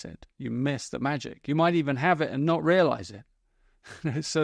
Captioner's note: chuckles